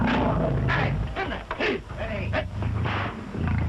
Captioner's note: indistinct shouting